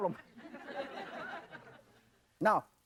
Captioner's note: audience laughing